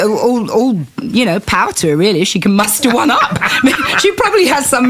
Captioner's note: laughter